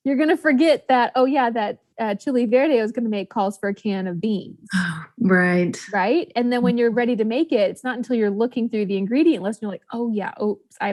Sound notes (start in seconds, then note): 4.8 sighs